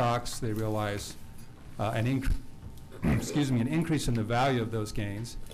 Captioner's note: clears throat